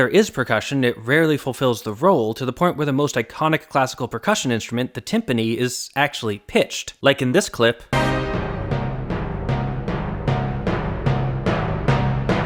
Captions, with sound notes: is percussion, it rarely fulfills the role, to the point where the most iconic classical percussion instrument, the timpani, is actually pitched. like, in this clip: (bang)